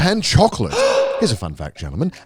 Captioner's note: gasps